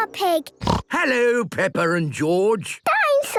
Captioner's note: snorts